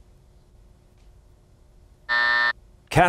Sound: buzzer

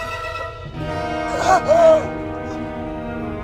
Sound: gasps

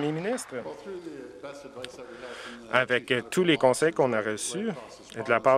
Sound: applause

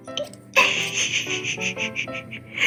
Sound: giggle

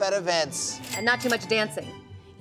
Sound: cash register chimes

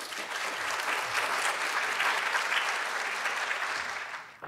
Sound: audience applauds

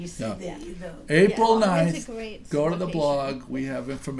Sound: voiceover

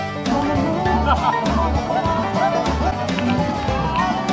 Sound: country music; laughter

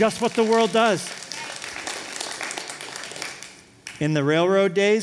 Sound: applause

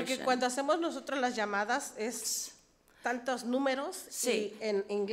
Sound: speaks foreign language

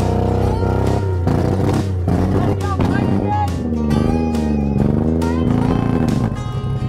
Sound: upbeat music; vehicle engine roars

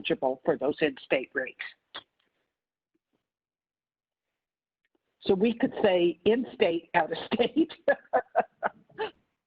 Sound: laughing

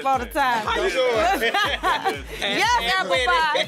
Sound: laughing

